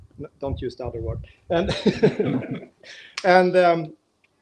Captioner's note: laughing